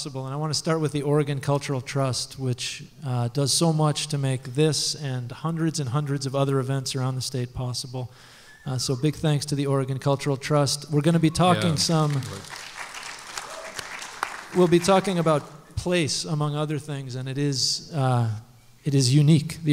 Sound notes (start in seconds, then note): 11.5 applause